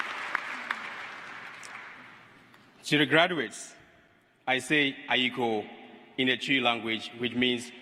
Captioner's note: applause